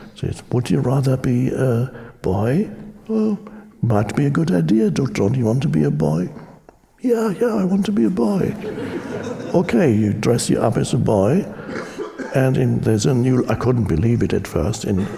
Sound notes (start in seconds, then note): 8.3 audience chuckling